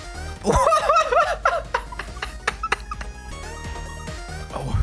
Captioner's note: laughs like crazy